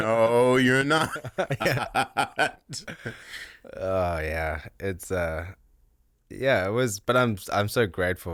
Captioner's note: both laughing